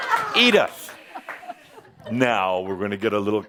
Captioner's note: laughter